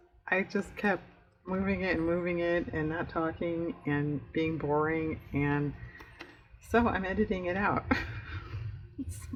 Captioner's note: laughs